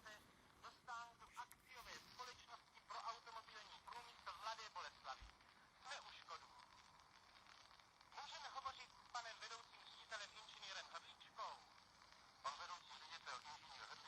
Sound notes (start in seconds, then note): 8.7 radio playing